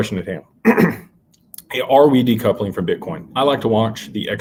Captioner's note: clears throat